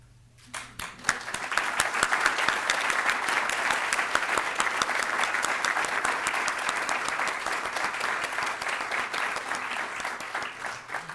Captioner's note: applause